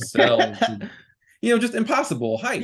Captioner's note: laughing